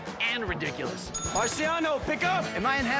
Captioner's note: bell rings